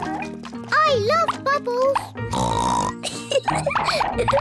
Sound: oinks and giggles

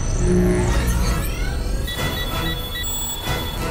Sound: beeping

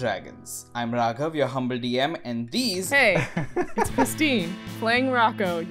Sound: laugh

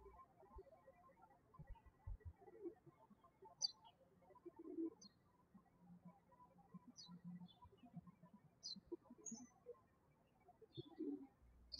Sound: birds chirping

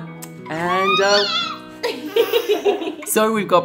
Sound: baby squeals; giggles

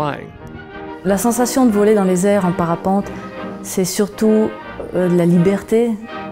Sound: speaking in a foreign language

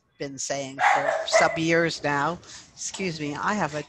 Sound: dog barking

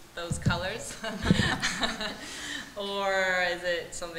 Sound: laughter

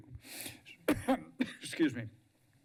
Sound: coughs

